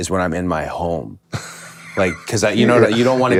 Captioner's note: Finn laughing